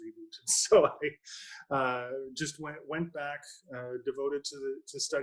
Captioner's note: laughs